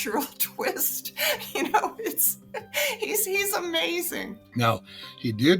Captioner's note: author chuckling